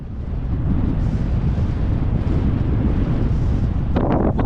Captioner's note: wind blowing